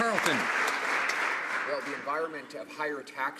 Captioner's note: some Applause